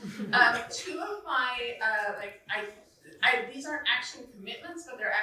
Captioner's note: chuckling